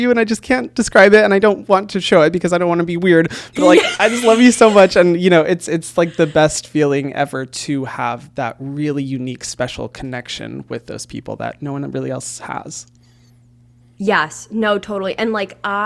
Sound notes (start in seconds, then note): 3.5 laughs